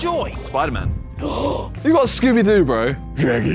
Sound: gasps

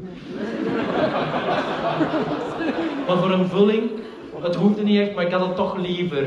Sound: laughter

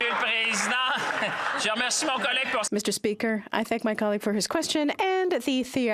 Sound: some Applause

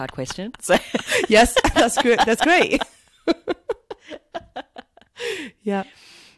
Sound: laughs

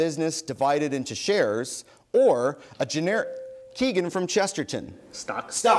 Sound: bell dings

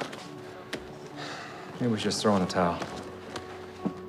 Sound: sighs

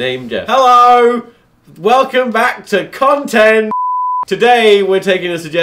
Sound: beep

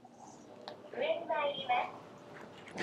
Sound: elevator annoucement in japanese

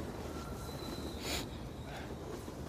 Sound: sniffles

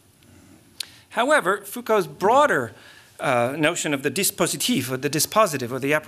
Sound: french

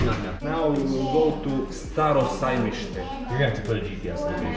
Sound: foreign Language

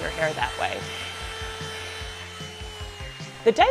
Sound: blow dryer humming

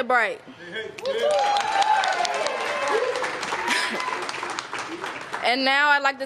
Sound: applause

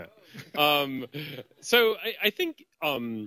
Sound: laughter

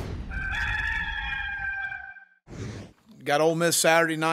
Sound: cock crows

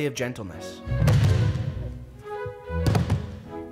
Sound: thumps

